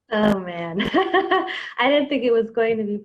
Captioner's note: laughs